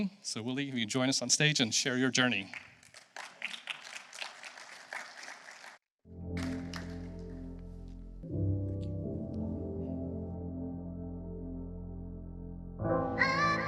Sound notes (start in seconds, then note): 2.3 applause